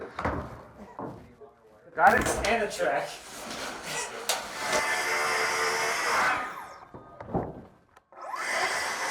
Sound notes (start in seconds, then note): 5.5 sawing sounds